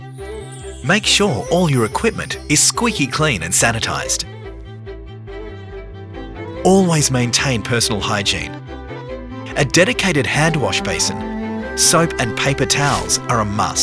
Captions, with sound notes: [Glimmer sound] Make sure all your equipment is squeaky clean and sanitised. Always maintain personal hygiene. A dedicated hand wash basin - soap and paper towels - are a must.